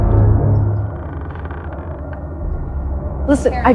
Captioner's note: floorboard creaks